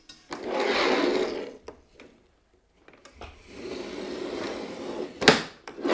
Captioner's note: metal cutter rolls loudly against cardboard